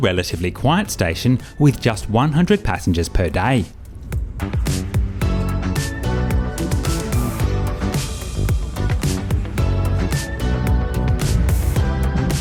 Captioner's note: train noises